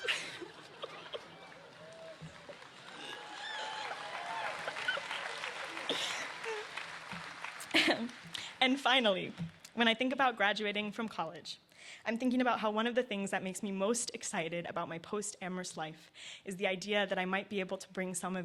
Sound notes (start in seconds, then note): 0.0 laughter; 4.6 cheers and applause